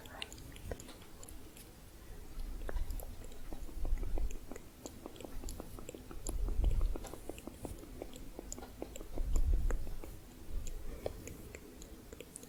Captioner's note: muffled tongue clicking